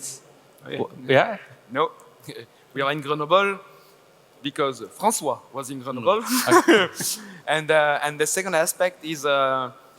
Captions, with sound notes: - Nope. We are in Grenoble because Francois was in Grenoble (laughs). And the second aspect is,